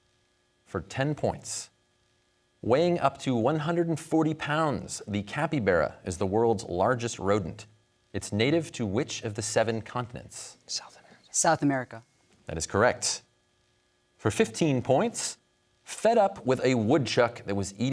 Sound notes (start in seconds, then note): 10.5 whispers